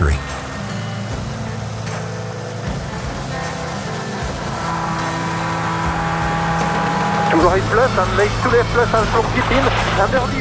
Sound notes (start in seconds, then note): 4.5 engine revving